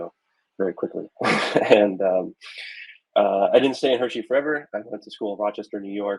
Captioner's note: chuckling